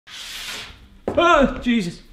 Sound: chopping board scraping

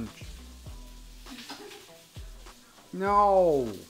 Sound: giggles

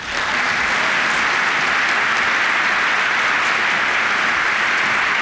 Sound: applause

